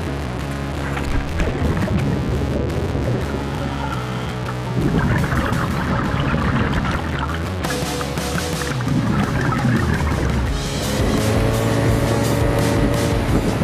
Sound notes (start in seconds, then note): 0.2 rock music playing; 5.0 splashing; 10.6 motor boat roars